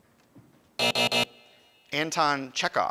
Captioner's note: alarm buzzes